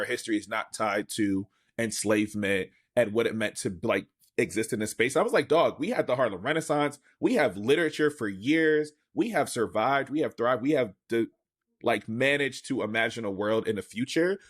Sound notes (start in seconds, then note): none